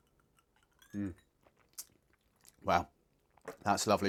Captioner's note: ice tinkling